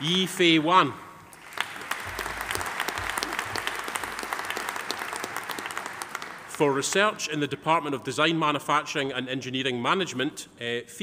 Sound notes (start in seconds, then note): 1.3 audience applauding